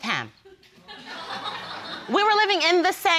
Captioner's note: audience laughs